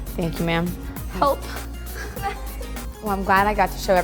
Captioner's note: laughs; daughter laughs